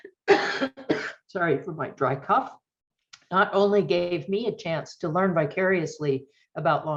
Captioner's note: sorry for my dry cough